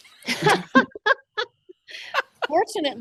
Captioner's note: people laughing